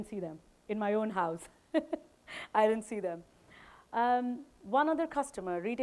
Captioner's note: chuckles